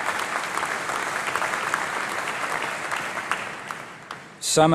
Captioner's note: applause